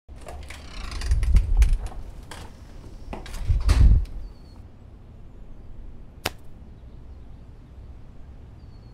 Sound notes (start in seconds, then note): 6.2 clap